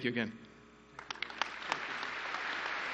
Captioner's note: applause